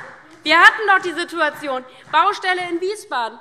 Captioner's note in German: Beifall DIE LINKE